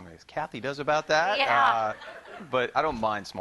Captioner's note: laughter